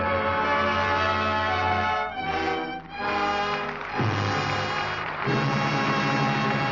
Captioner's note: dramatic music; audience applauding